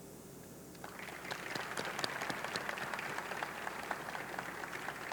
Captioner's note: audience clapping